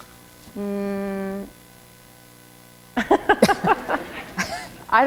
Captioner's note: chuckle